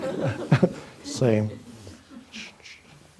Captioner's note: chuckles; audience laughs